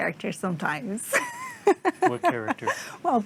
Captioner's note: laughs